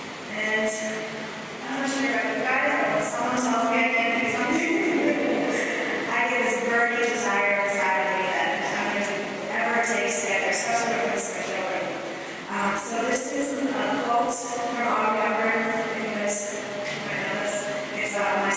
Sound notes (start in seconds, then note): 6.3 laughter